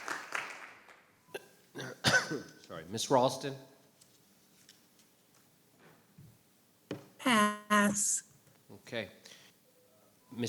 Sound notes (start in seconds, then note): 1.7 coughs